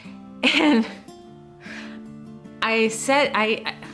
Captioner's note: laughing